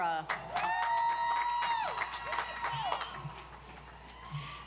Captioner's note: audience applauds